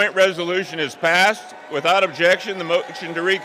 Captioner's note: applause